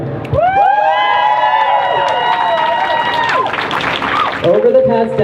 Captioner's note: crowd cheering